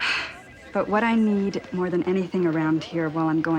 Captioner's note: sighs